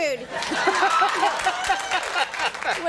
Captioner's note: audience applauds; Conan laughs